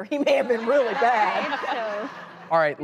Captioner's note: laughing